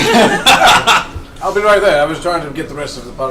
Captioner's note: all laugh